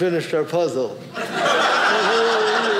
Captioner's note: audience laughing